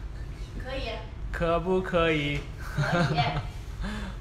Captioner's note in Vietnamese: cười